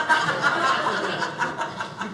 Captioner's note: audience laughing